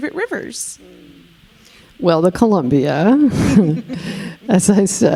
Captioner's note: chuckling